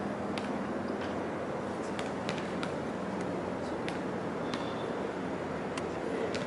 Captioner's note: traffic humming; helicopter blades chopping